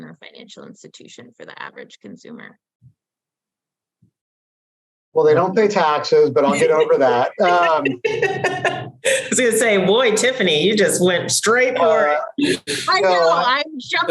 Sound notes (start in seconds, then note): 6.3 all laughing